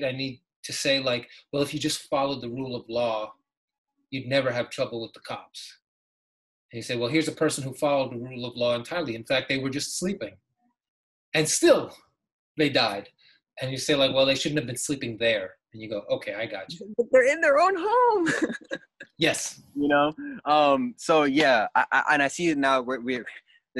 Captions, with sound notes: I need to say like, well, if you just followed the rule of law, you'd never have trouble with the cops. You say, well, here's a person who followed the rule of law entirely. In fact, they were just sleeping, and still, they died. And you say like, "Well, they shouldn't have been sleeping there." And you go, "Okay, I got you." - But they're in their own home. (laughs) You know, so yeah, and I see this now,